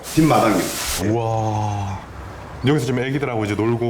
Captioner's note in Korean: 감탄